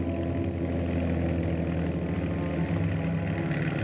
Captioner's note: vehicle approaching